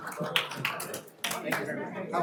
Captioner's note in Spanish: aplausos